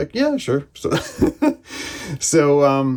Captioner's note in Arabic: يضحك